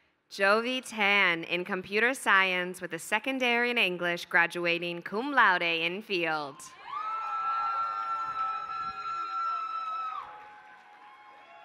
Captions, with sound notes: Jovie Tan in computer science with a second degree in English graduating cum laude in field. [APPLAUSE]